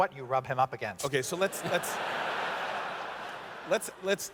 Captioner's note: laughter